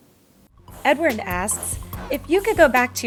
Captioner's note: voiceover